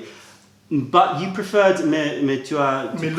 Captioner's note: french